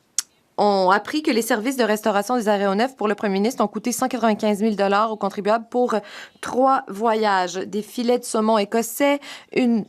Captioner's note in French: voix de l'interprète